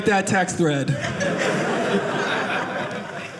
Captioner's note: audience laughing